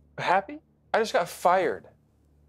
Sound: none

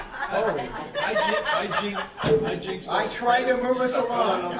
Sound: laughing

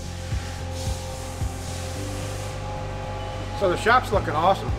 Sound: machines whirring

